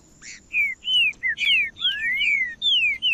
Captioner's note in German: trinca ferro cantando